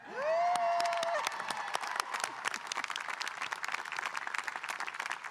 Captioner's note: audience cheering and applauding